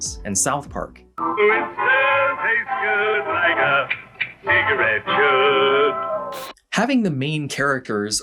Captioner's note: click, click